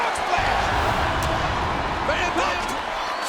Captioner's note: air whooshing